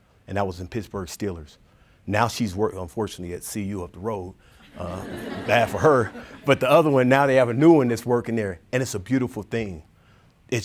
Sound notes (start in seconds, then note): 4.6 audience laughing